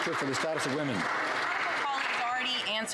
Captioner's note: some Applause